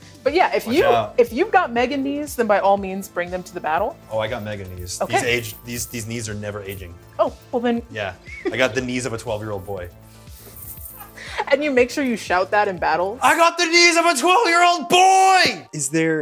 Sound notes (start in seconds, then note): 10.3 jingling; 13.2 shouting